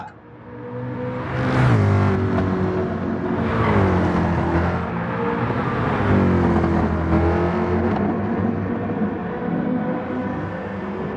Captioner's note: engines revving, cars noises